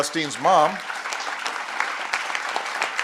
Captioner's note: applause